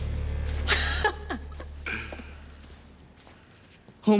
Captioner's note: laughs